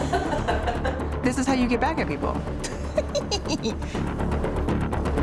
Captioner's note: laughs